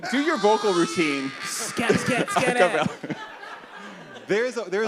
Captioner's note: screams; laughter